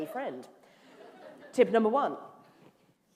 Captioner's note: laughter